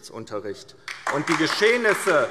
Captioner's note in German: Beifall DIE LINKE - Zurufe AfD